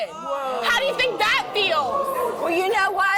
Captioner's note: in Unison; murmuring